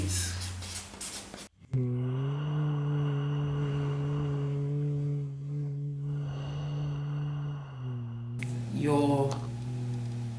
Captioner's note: humming & Breathing